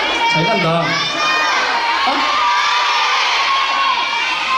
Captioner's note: are shouting 'Siren'